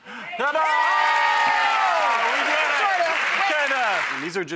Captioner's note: applause